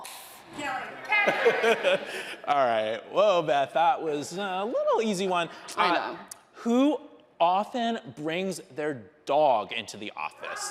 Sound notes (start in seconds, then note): 1.1 laughing